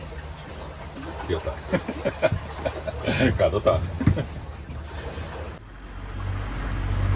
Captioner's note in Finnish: naurua